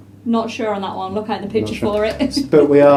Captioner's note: laughs